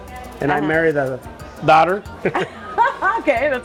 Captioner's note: chuckles; laughing